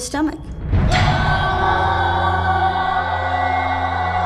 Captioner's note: screaming